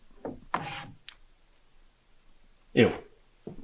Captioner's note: finger swipes